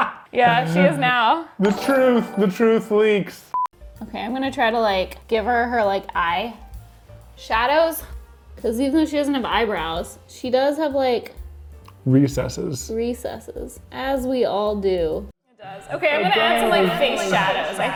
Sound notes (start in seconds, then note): 0.0 both laugh; 3.7 TV beeps